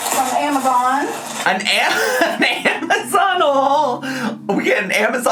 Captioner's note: laughs